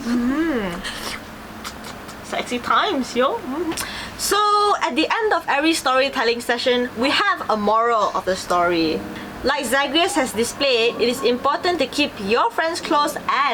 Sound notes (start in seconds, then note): 1.6 licks lips